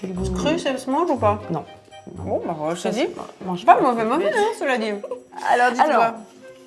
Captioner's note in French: rires